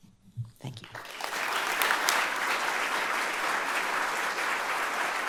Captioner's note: audience applauding